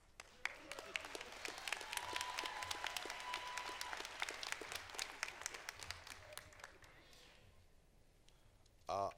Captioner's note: applause